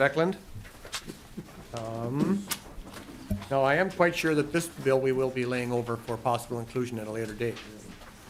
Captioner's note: gavel